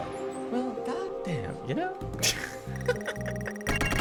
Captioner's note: laughs